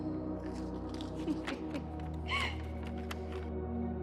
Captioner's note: giggles